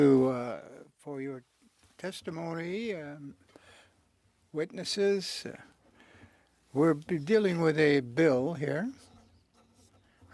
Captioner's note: speaking French